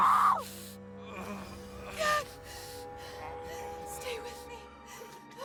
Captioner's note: Kaak groaning